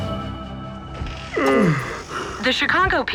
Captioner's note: yawn